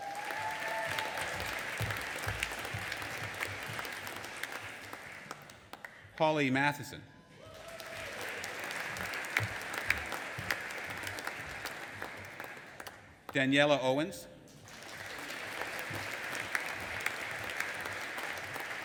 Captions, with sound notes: (AUDIENCE APPLAUDING AND CHEERING) Holly Mathieson. (AUDIENCE APPLAUDING AND CHEERING) Daniella Owens. (AUDIENCE APPLAUDING)